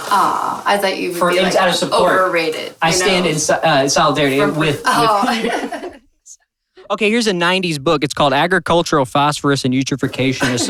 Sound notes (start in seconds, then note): 4.4 laughing